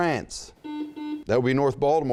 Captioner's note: buzzing